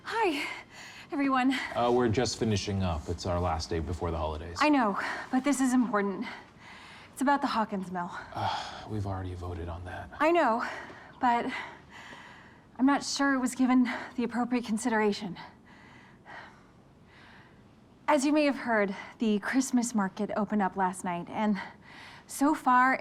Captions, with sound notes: Hi, everyone. We're just finishing up. It's our last day before the holidays. I know, but this is important. It's about the Hawkins mill. [groaning] We've already voted on that. I know, but I'm not sure it was given the appropriate consideration. As you may have heard, the Christmas Market opened up last night and so far